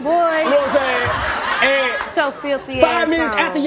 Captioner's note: audience laughing